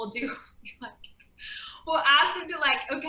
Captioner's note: chuckling